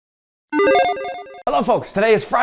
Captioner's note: logo beeps